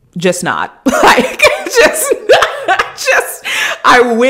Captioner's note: laughing